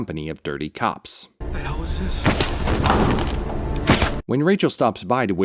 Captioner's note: silenced gunshots